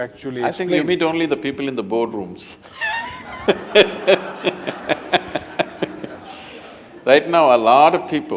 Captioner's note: laughter